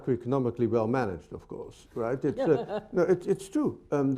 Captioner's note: laughs